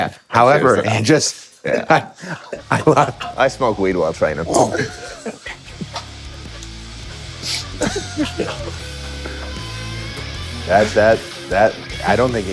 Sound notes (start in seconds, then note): 4.7 all laughing; 9.1 high-energy music